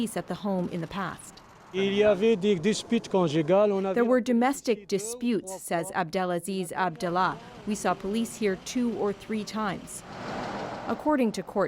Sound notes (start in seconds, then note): 3.1 speaking French